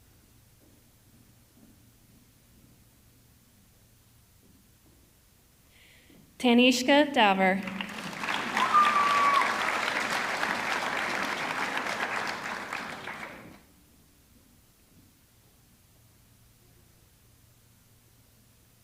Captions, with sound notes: Tanishka Daver, (audience clapping) (audience cheering)